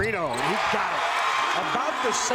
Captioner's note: crowd cheers